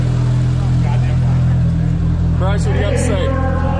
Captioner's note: crowd chattering